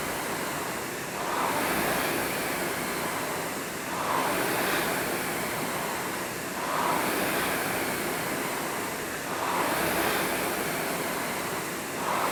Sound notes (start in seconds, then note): none